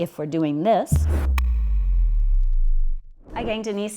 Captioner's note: flashy animation sounds